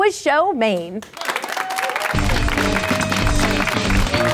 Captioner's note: applause; cheering; energetic music